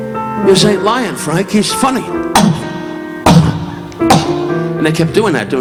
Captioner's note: Don imitating coughing